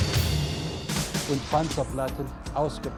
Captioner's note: speaking german